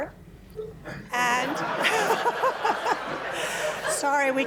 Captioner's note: laughter